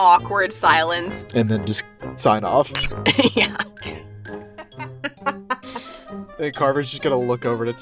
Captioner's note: laughs